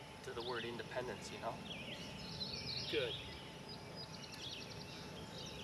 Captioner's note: birds Chirping